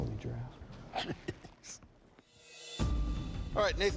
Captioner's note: laughs